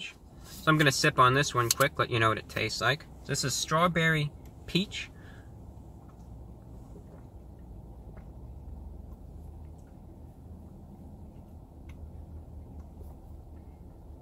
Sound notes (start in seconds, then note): 5.1 sips sips sips sips